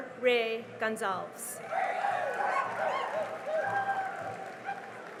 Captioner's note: cheering and applause